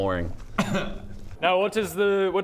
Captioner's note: ahem